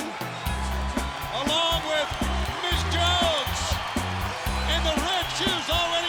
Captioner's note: crowd cheers